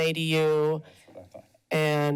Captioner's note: background chatter